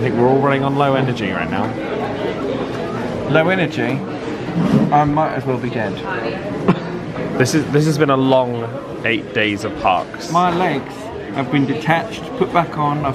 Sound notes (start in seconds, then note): 6.3 laughs